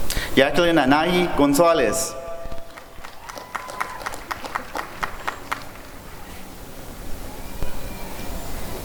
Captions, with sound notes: Jacquelin Anahi Gonzalez [applause and cheering]